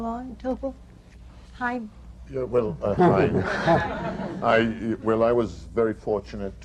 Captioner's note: laughter